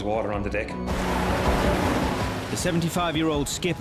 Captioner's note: waves crashing